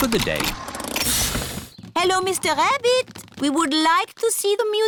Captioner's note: engine stops